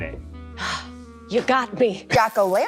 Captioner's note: exhales